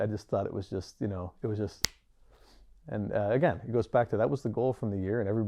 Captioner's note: snaps